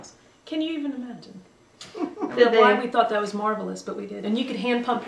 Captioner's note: laughter